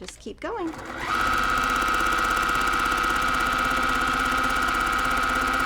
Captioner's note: sewing machine clunking